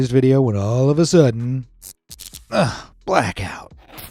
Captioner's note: electricity crackling